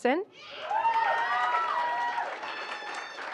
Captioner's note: applause